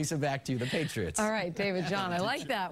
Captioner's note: laughter